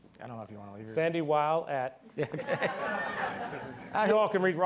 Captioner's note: all laughing